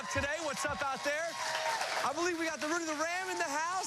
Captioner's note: cheers and applause